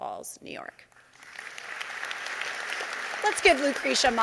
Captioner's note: audience applauding